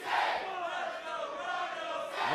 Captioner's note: fans chanting